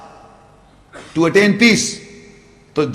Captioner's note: Arabic